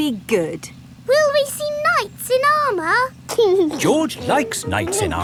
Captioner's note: giggling